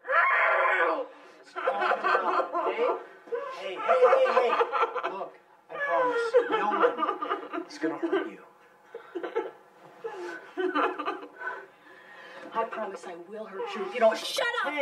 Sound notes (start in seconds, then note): 0.0 screaming; 0.0 screams; 8.9 sobbing